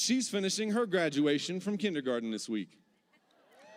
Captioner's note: cheers